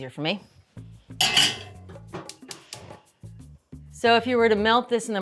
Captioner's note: igniter clicks; upbeat music